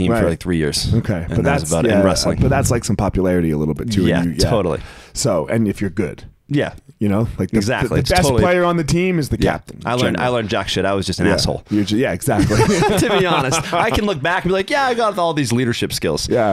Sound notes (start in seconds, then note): 12.3 both laughing